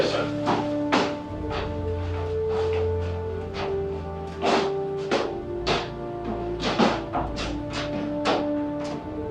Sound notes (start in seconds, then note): 1.3 upbeat music; 4.4 footsteps thumping